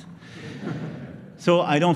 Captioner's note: laughter